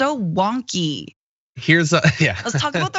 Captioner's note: laugh